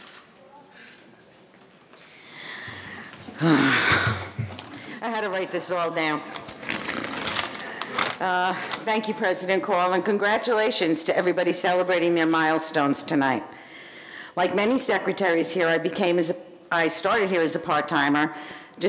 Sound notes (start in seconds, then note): 0.2 camera shutter clicks; 3.4 groans